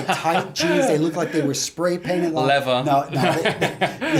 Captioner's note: laughs